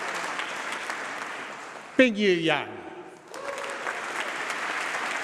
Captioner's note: applause